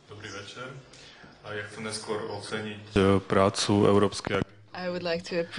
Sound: non-english

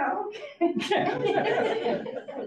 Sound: audience laughs

